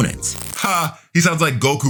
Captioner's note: TV static running